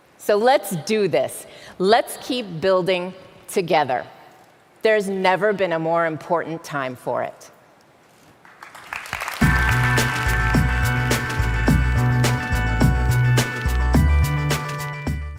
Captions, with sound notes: So, let's do this, let's keep building together. There's never been a more important time for it. (audience applauding)